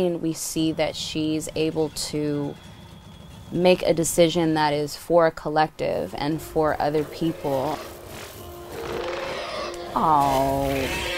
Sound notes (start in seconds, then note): 8.6 roars